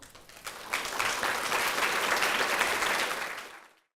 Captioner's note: audience applauding